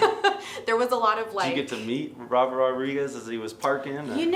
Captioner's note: laughing